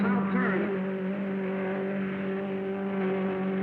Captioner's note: car revving